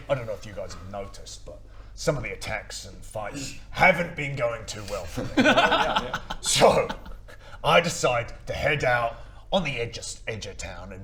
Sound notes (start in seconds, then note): 5.2 insensitive laughter